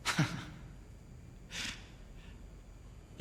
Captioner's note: heavy breathing